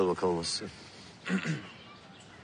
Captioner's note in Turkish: Ali Rıza boğazını temizler